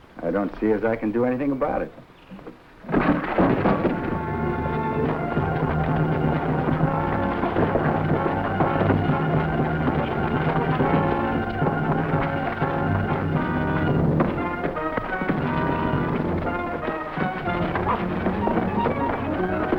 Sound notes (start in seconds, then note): 3.2 men rustling; 3.2 tense music